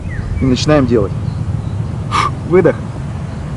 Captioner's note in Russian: звук выдоха